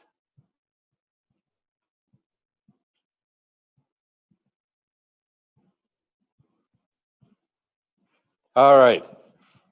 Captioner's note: pause